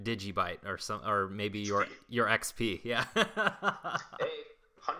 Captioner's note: laughs